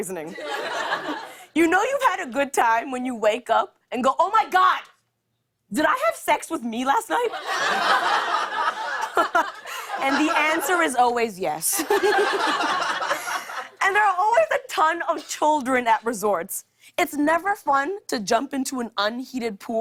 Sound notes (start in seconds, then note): 7.2 laughter; 7.3 laughs; 11.7 laughter